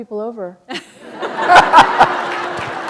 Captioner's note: laughter